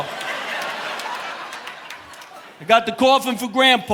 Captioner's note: audience laughing